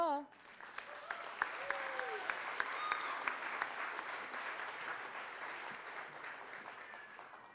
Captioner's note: applause